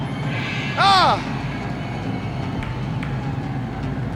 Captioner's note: Bob exclaiming; ominous instrumental music continues